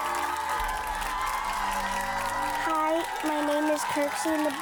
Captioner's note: audience applauds